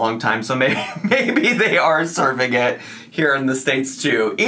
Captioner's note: laughs